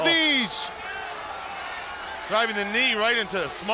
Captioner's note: crowd chatter